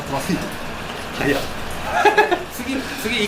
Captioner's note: laughs